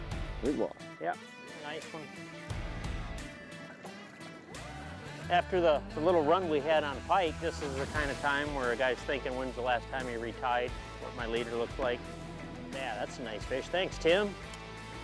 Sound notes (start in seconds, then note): 2.7 upbeat country music; 3.9 water splashing